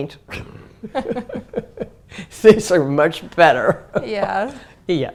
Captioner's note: laugh